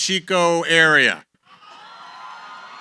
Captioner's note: cheering